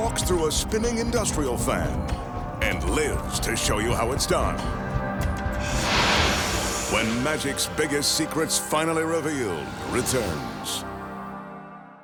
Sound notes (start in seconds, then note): 5.6 smoke whooshing